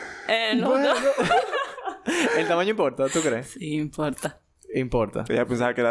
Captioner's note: laughs